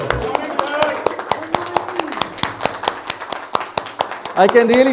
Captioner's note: audience Applauding